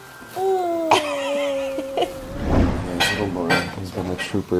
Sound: laughs

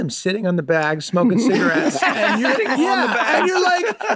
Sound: group laughs

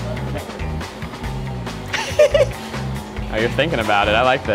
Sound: chuckles

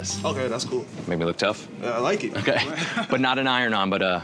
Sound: laughs

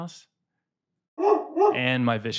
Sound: dog barks

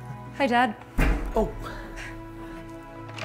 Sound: head thuds; moving to emotional music

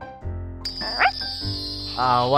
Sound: bark

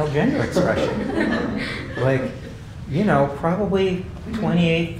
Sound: laugh

